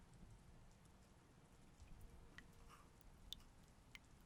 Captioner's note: water dribbling